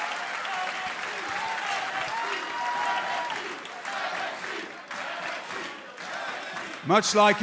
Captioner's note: crowd cheering